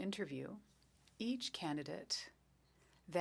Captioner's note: speaking French